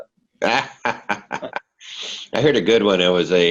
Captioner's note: laughing